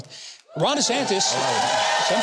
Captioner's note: audience cheers